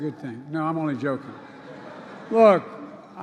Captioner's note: laughter